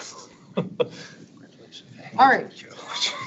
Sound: laughing

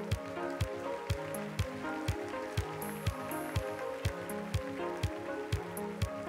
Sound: applause

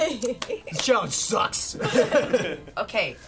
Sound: laughing

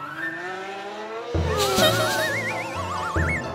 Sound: giggles

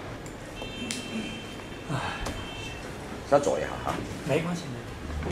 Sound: sigh

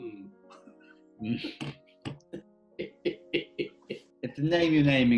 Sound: chuckling

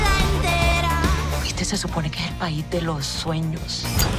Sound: in Spanish

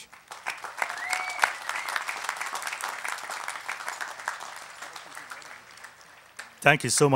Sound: applause

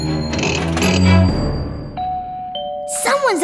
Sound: doorbell ringing

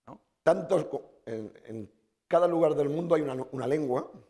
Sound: speaking spanish

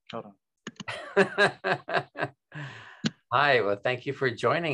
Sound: laughing

